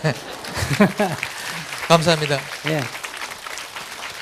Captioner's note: audience laughter